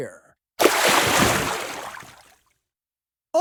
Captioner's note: splash